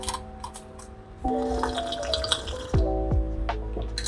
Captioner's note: slurpsssssssssssss